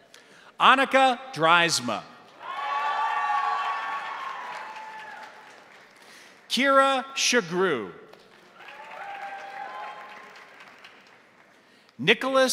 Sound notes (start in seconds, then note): 2.3 crowd applauding; 2.3 crowd cheering; 8.1 crowd applauding; 8.5 crowd cheering